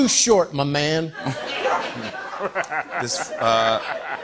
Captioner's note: laughter